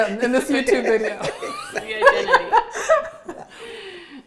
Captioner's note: group laughs